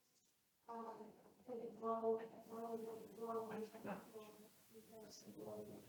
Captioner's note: speaks faintly